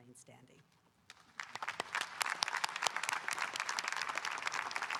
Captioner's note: audience applauding